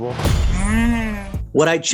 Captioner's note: robotic noise